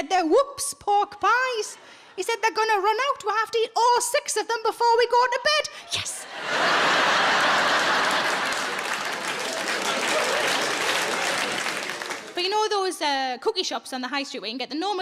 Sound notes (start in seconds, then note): 6.2 audience laughs and claps